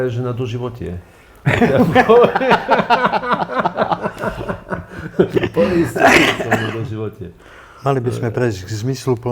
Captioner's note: laughter